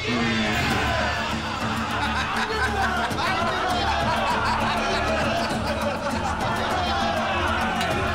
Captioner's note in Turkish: Gülme sesleri